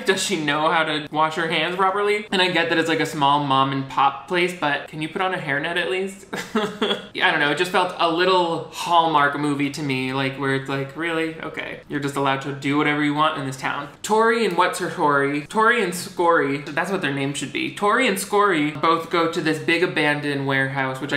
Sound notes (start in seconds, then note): 6.3 laughs